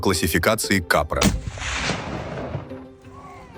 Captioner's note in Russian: выстрел